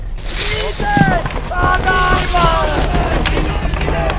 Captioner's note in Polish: krzyki i poruszenie